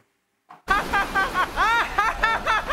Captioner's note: laughs